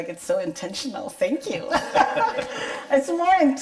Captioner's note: both laugh